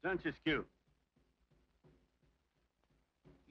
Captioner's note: warrior speaking foreign language